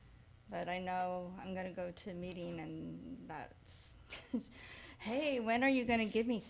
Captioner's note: chuckles